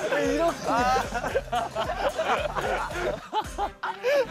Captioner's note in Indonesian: Tidak bisa berhenti tertawa